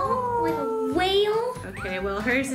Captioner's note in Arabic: صرخات